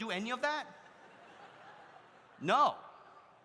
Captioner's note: audience laughs